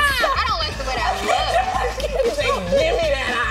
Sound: shrieking; laughing; shrieking

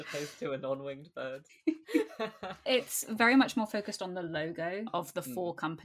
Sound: laughs

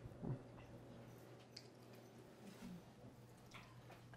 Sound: chewing loudly

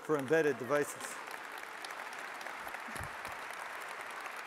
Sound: audience applauds

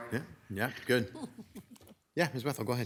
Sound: member chuckling

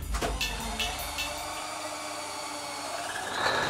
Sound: engines starting

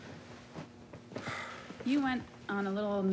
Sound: Rufus sighs

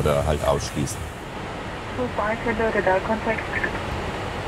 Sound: radio message

